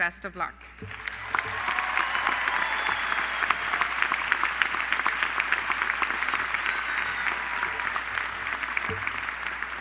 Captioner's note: applause